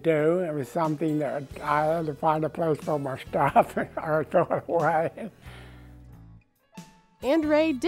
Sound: laughing

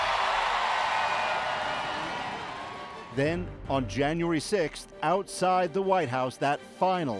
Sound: cheers and Applause

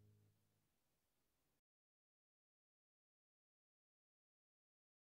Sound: silence

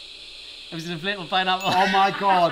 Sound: correct ding

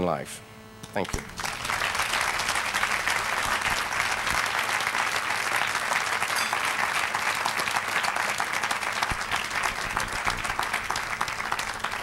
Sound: applause

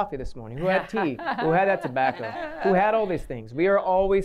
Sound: laughter

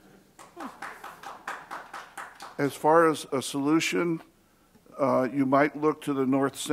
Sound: applause

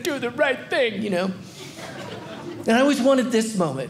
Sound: audience laughing

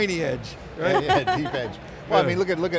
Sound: laughs

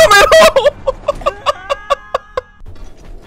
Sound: laughs

